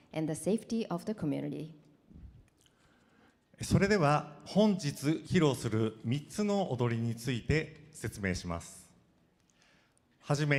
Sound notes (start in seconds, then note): 3.6 speaking foreign language